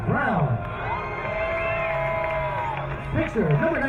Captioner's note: crowd cheering